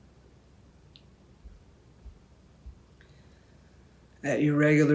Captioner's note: silence